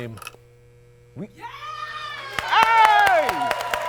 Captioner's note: cheering; applause